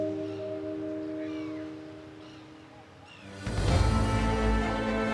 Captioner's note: gentle music continues; birds caw; majestic music